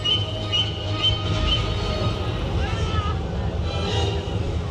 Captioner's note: fire whooshes